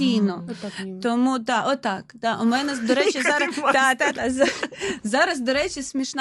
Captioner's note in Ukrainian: сміх